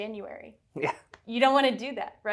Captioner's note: chuckles